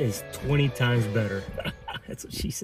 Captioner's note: laughs